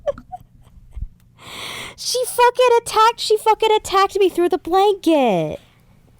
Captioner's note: laughs; gasps